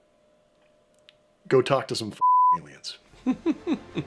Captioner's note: beeping